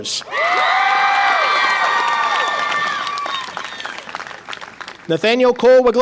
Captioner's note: audience applause and cheer